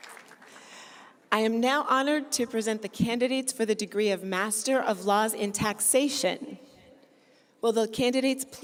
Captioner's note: cheers and applause